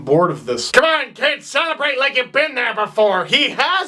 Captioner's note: quieter, somewhat enthusiastic; mocking hockey commentator voice; normal voice